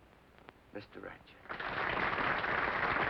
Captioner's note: applause